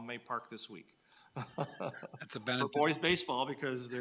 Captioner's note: people chuckle